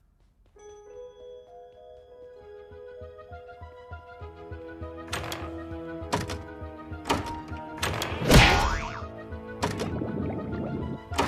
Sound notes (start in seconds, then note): 0.2 curious music; 8.6 boing!